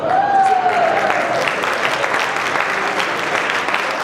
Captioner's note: applause